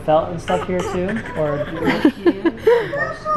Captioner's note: giggling